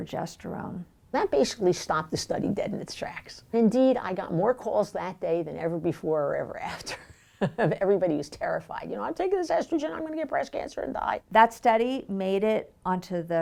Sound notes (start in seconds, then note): 6.8 chuckles